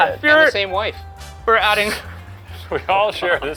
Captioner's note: laughs